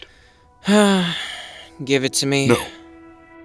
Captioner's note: sighing